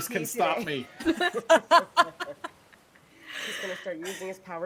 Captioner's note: people laughing